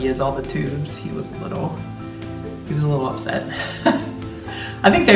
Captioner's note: chuckling